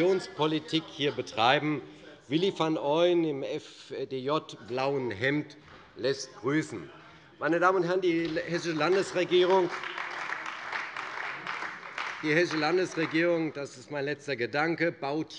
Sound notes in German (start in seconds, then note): 8.0 Beifall bei der CDU